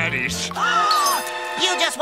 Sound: gasps

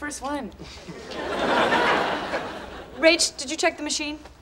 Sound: audience laughing

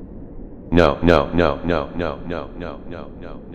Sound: echo

